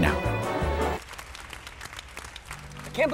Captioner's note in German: applaus